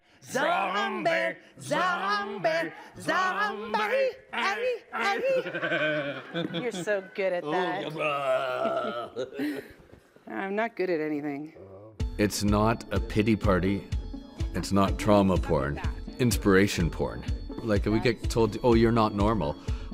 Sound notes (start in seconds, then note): 4.9 laughing; 7.9 roaring